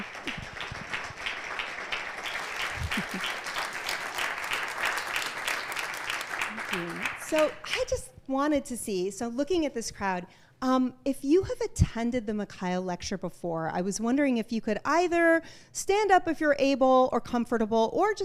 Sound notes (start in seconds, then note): 3.5 applause